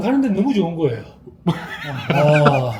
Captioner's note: laughs